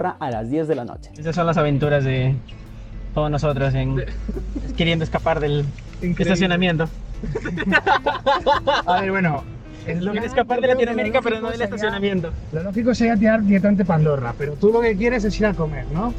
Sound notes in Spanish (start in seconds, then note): 7.2 Risas